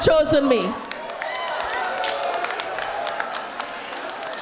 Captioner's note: crowd applauds